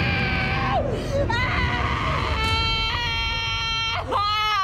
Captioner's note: screaming continues